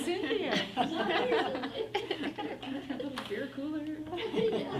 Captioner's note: everyone laughs